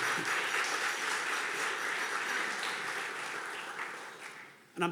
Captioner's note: audience clapping